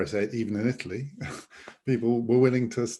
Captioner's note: chuckles